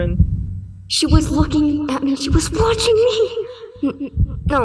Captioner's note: heart pounding